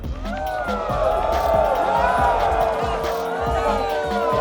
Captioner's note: crowd